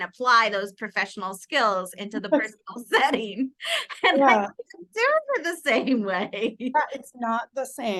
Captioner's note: audible giggling